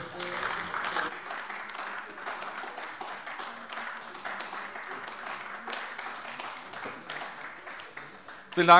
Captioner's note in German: Beifall AfD